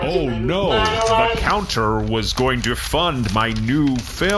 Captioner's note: stiltedly reading